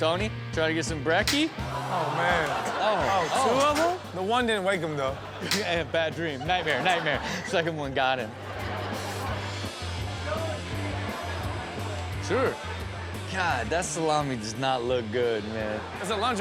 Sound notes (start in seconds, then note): 1.6 all groan; 8.7 audience laughs